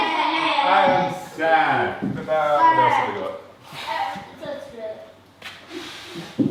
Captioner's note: foreign language